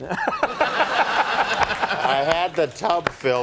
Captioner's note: laughing